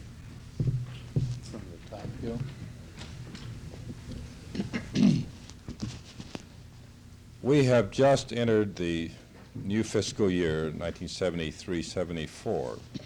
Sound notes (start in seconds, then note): 0.6 thumping noise; 4.5 Bradley clears throat